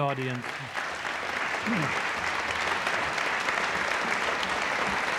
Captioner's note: audience applauding